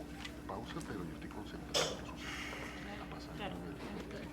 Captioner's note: inhales deeply